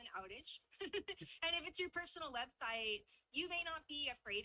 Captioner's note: chuckles